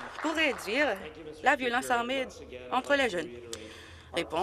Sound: applause

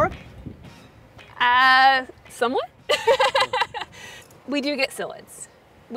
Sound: laughing

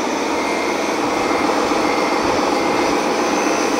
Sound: engine runs

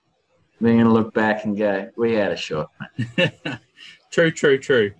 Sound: chuckles

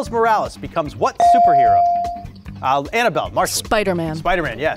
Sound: beep

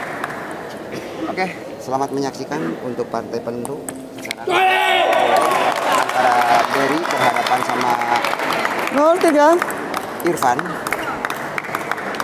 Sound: applause

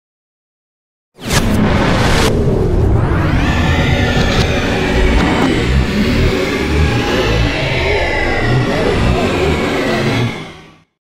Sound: sound of science fiction

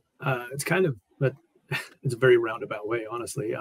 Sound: laughs

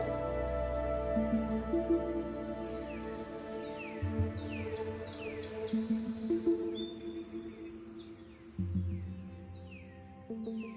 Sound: insect noises

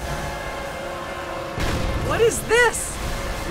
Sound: ground rumbles

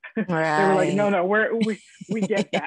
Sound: woman laughing

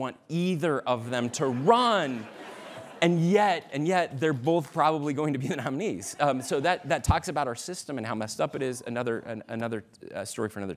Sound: laughter

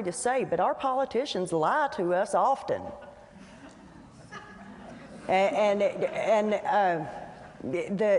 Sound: light laughter

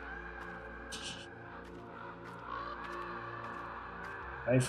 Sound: laughs softly

